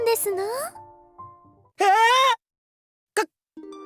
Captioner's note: panicked scream